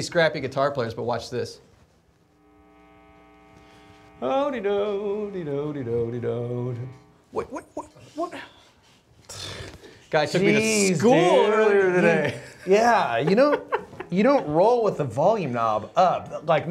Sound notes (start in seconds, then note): 2.3 guitar feedback noise; 11.9 laughs